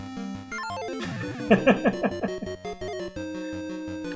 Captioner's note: chuckles